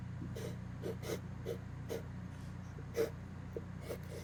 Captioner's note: pencil scratches